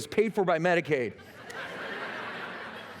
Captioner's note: laughter